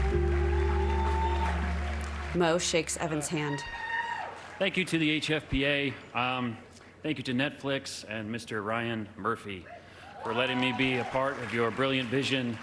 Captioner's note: applause